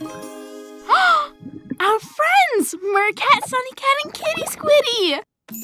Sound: gasps

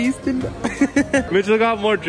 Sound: laughs

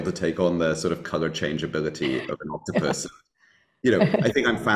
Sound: chuckling

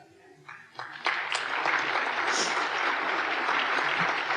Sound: applause

